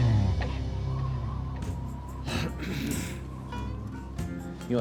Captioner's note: wind howling